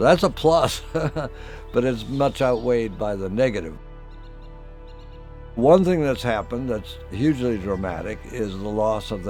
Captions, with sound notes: So that's a plus, [chuckle] but it's much outweighed by the negative. One thing that's happened that's hugely dramatic is the loss